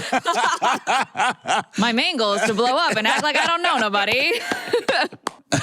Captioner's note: laughter